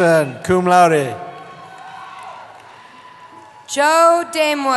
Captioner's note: cheering